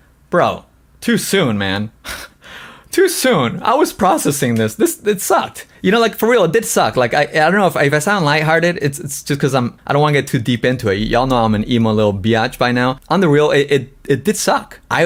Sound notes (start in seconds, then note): 2.1 laughs